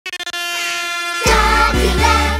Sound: air horn blowing

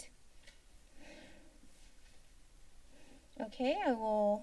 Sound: paper rustling sound

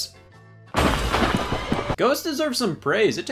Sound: thunder

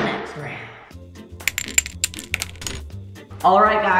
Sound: clinking; upbeat music

